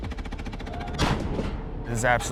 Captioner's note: cannon blasts